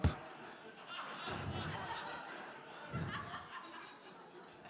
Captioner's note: crowd laughing